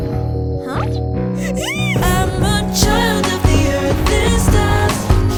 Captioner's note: excited squealing